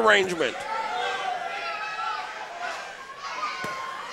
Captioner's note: crowd shouting